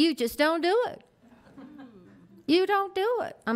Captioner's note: board laughs